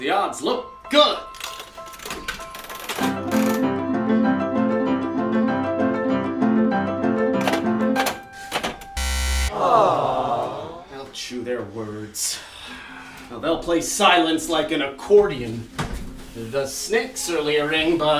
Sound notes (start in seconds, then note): 2.0 piano music and the sound of a slot machine; 9.0 buzzer... a disappointed audience says, "aww"